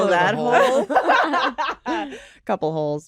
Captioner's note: laughter